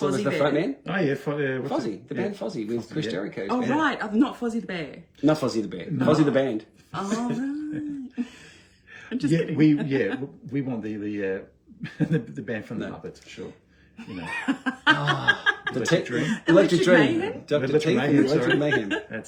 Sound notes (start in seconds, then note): 9.1 laughter; 14.0 laughter